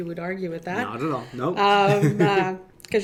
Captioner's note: laughs